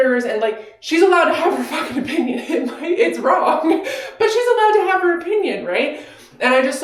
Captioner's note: laughing